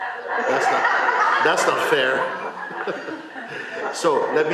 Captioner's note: laughter